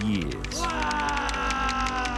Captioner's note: man screams